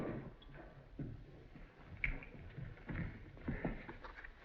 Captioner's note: fingers Snap